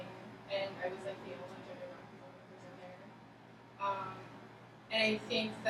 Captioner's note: speaking softly